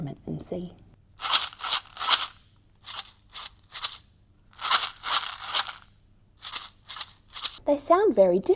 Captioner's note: shaking sounds can be heard